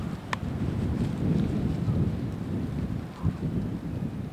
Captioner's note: wind blowing